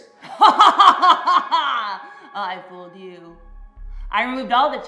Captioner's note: laughing